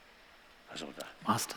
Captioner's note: non-english